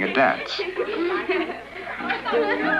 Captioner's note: giggling